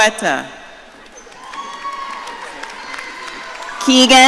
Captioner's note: audience cheering